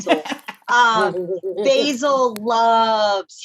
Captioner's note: laughter